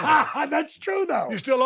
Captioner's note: laughs